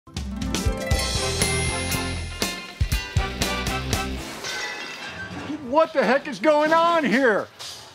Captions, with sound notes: (upbeat music) (glass breaking) - What the heck is going on here?